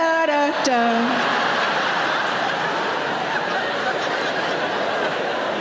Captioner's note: audience laughing